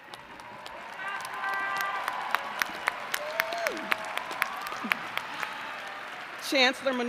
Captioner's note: applause